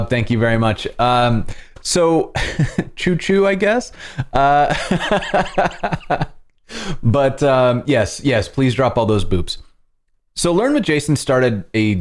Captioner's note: laughter